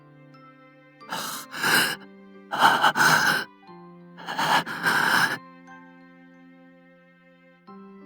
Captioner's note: panting